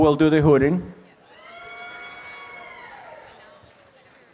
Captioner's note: applause and cheering